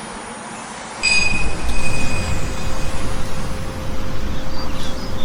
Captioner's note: bell chimes